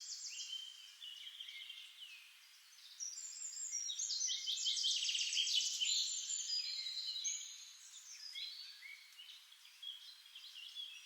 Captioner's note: sound of birdsong